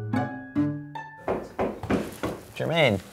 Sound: quirky music; knocking on door

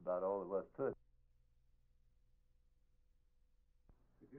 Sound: silent

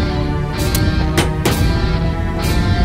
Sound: iron sound

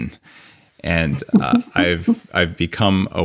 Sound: Bryon chuckles

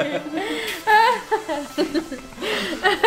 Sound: laughing

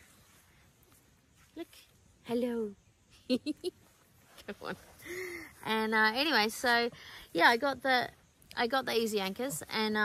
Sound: gigles

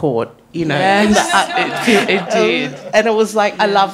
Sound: panellist laughs

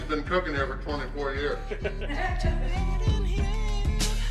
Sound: haha

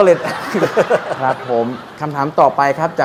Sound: laughing sound

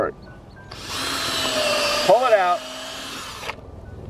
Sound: drill grinding

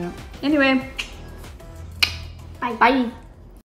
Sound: clicking noise each

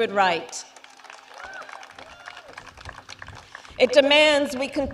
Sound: applause

